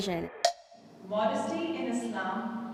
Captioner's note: timer taps